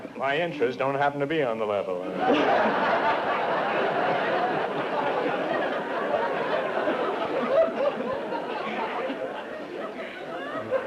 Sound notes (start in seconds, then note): 2.1 laughter